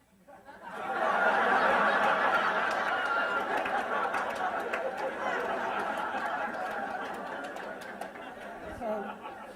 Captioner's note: laughter